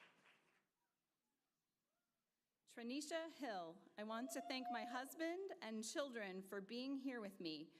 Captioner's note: applause